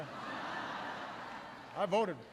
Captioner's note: laughter